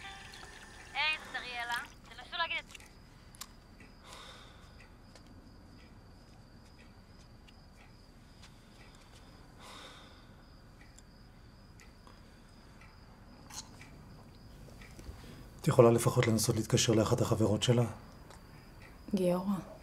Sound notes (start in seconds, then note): 9.6 sighs